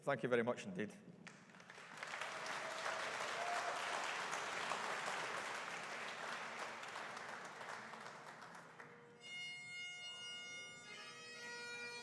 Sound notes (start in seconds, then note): 1.3 audience applauding; 9.1 bagpipes play